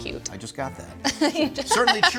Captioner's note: laughing